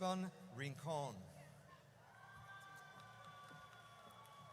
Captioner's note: audience cheers